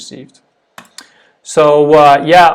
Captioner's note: buttons clicking